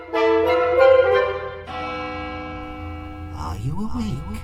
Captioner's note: church bell tolls